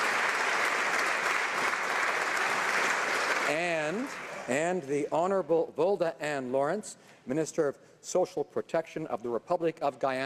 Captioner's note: applause